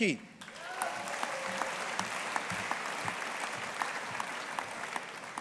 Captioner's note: audience applauding